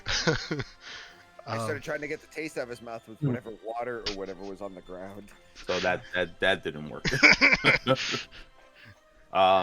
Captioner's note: chuckles